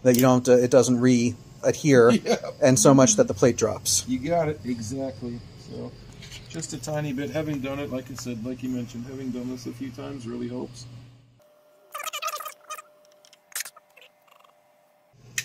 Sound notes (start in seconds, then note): 4.1 laughs; 8.8 torch clicks off